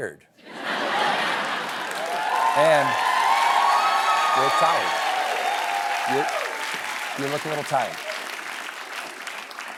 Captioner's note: laughter; cheering